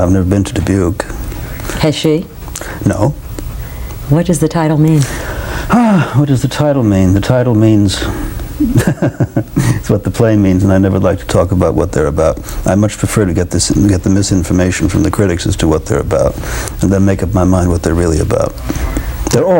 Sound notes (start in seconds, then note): 8.6 laughter